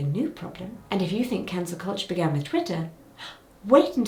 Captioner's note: gasps